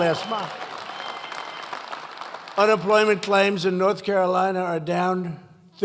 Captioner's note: applause